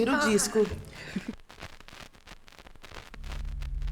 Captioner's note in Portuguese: chiado